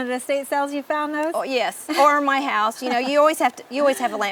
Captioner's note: laughing